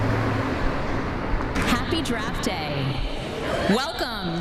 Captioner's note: car rumbling